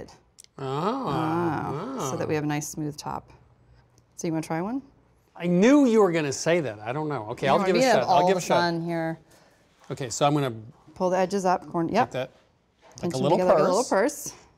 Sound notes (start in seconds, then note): none